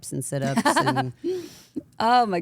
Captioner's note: AJ laughs